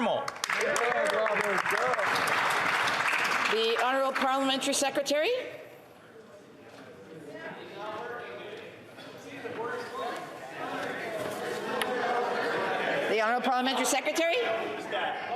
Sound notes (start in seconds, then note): 4.5 some Applause